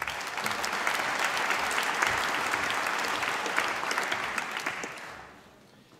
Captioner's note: applause